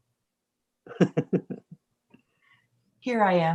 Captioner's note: laughing